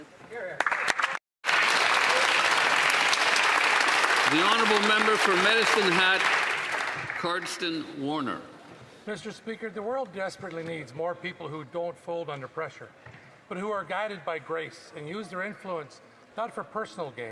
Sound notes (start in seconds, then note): 7.1 some Applause